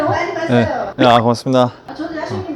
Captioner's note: scratch Scratch